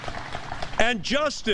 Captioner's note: applause